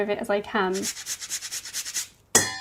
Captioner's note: zester grating; utensils clang